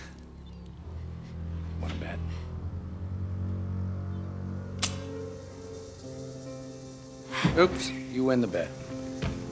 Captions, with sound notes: Wanna bet? (gun clicks) Oops, you win the bet.